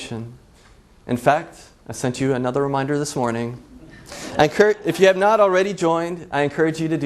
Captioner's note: laughs